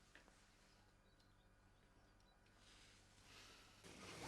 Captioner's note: birds chirping